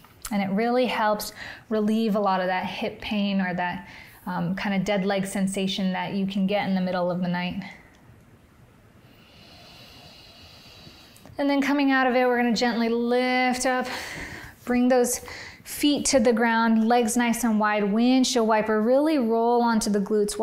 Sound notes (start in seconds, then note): 9.0 inhales; 13.8 exhales